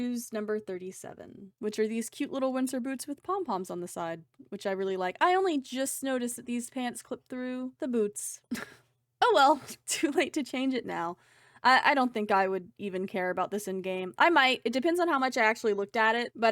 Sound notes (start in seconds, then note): 8.5 sad laugh